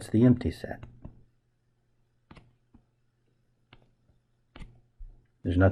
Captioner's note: writing Sounds